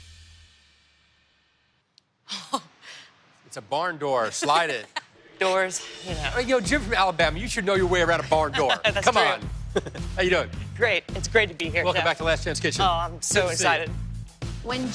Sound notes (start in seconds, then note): 1.3 laughs; 4.2 laughs; 8.0 laughs